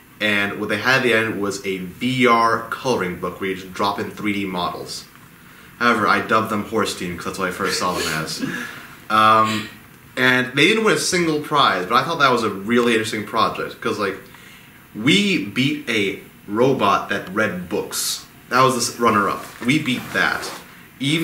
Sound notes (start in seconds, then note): 7.6 group laughs quietly